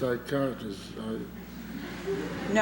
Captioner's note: laughter